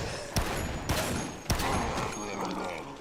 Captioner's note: gunshots